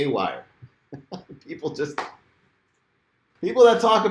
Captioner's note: laughing